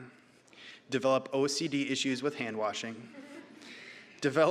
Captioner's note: audience laughing